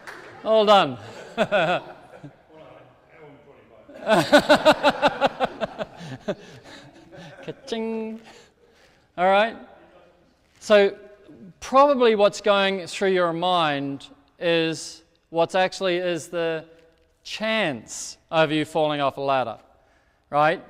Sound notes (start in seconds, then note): 0.6 laughs; 3.9 audience laughing